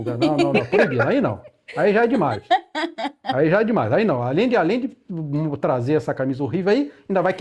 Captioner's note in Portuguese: risadas